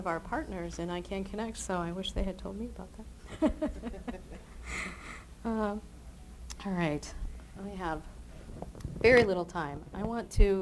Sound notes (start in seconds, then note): 3.3 chuckles